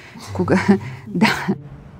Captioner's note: laughing